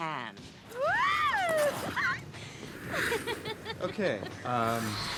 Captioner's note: Wendy giggling